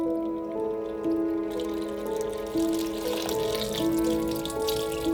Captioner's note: water splashes